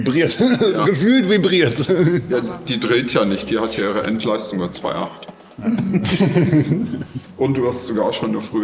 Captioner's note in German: gelächter